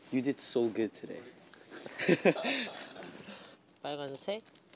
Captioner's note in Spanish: Jajaja